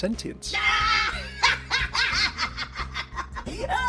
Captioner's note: laughs